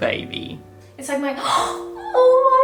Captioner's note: gasp